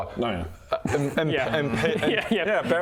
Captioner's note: scoffs